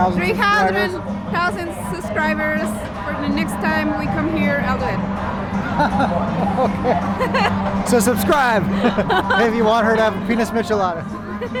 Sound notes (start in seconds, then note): 5.6 laughs